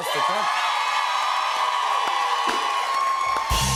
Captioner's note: cheers and applause